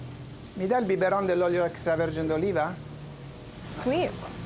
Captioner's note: speaking Italian